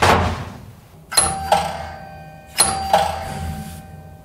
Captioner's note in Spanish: Suena la campana